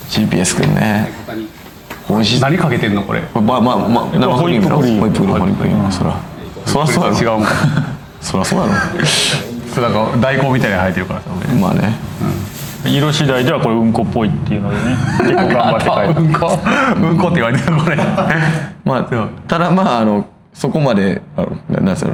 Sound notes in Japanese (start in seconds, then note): 18.0 咳払い; 18.4 笑い